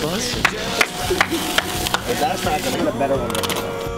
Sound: another contestant clapping

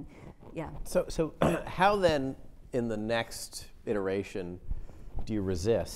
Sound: clears throat

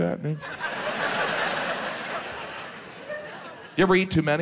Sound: audience laughs

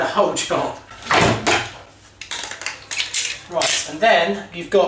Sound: tool snaps

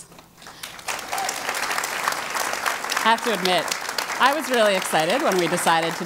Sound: applause

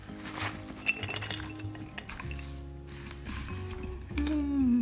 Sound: container rustling; nuts clattering

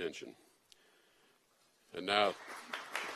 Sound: applause

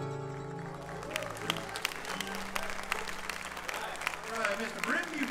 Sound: audience cheering

